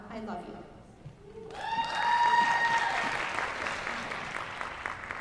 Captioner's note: applause